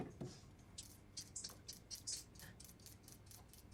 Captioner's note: peeler gliding